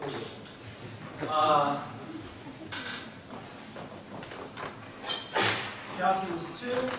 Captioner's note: laughs in audience